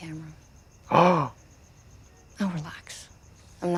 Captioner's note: gasps